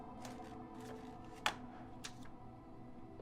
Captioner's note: phone clicks